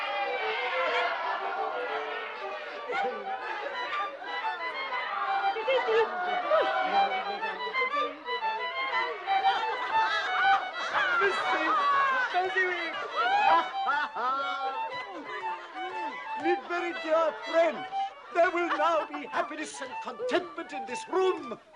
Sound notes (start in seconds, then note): 13.2 laughs